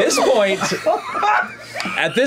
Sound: laughter

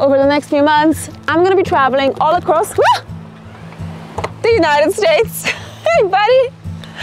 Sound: gasps

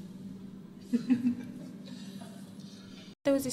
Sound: giggles

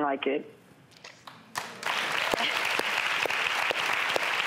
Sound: audience applauding

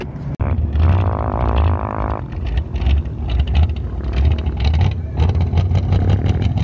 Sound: engines revving

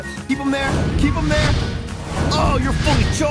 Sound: exploding

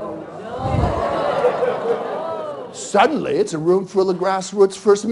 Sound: laughter

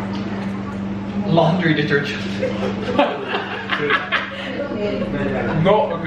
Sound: laughing

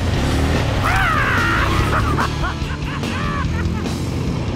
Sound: laughing hysterically

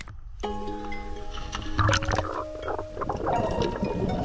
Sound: water splash

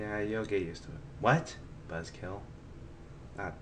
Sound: mumbling

